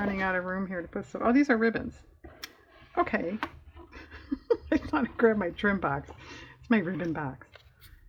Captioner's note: laughs